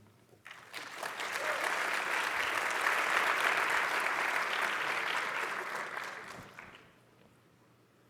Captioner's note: applause